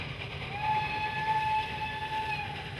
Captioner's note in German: Zugpfeifen